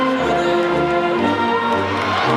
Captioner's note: audience cheering and applauding; audience faintly shouting